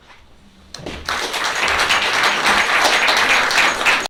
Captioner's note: applause